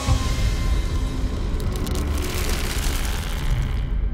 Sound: trees creaking

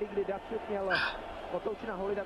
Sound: sigh

